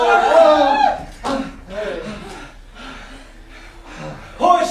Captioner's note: sailors panting